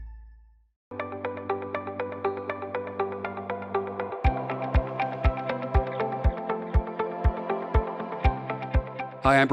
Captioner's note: announcer voice